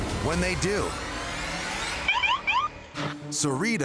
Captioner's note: siren chirps